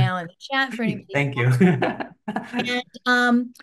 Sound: laughs

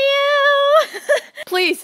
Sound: laughs

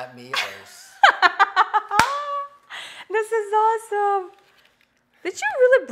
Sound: laughs

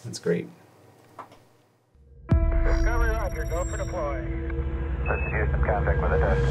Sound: voices over a radio

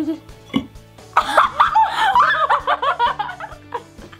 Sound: laughing

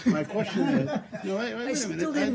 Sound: laughter

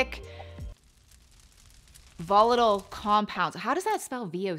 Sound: fire crackling

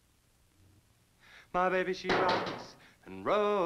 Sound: hammer thudding

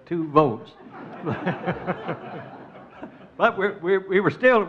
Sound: crowd laughs

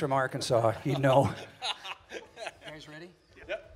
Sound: men laughing

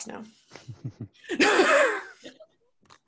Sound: laughs

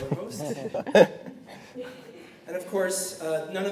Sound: laughter

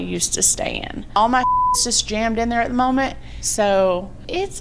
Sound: beep

